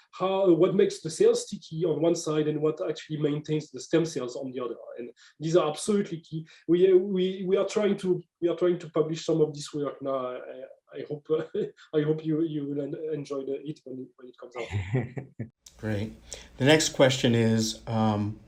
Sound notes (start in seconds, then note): 9.7 laughter